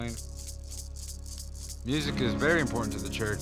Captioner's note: rattling